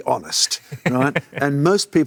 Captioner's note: laughs